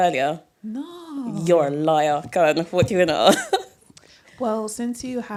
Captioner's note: laughter